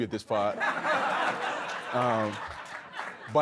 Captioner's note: audience laughs